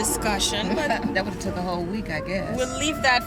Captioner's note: frustrated